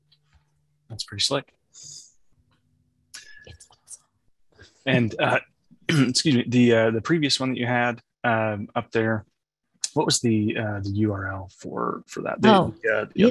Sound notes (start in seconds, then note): 5.9 clears throat